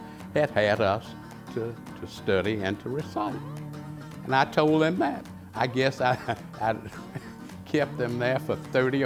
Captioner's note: chuckles